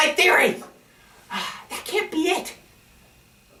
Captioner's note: sigh